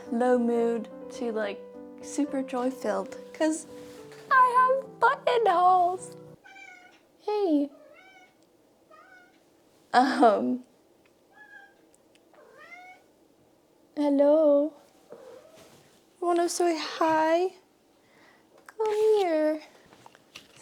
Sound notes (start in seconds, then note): 6.4 melancholy cat sound